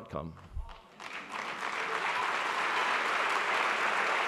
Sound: applauding

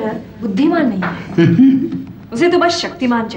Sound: giggles

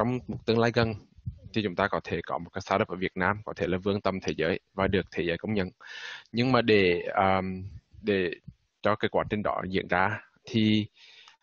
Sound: speaking Vietnamese

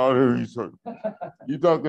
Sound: laughs

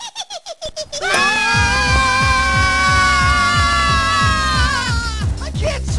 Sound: laughing; screaming

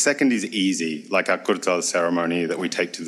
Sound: speaks foreign language

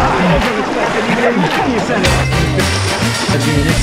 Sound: chatter

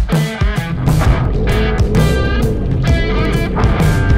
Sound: engine roars

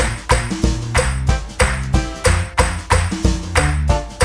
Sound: clap

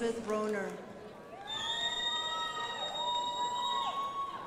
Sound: crowd applauding

